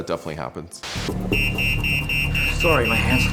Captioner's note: alarm going off